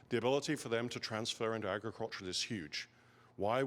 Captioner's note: none